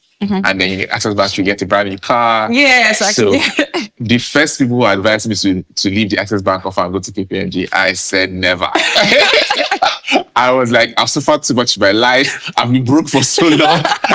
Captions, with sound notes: and if you’re with Access bank you will get a brand new car, Yeah. The first people who advised me to leave the Access bank offer and go to KPMG, I said, never. [laughing] I was like, I’ve suffered too much in my life, I've been broke for so long.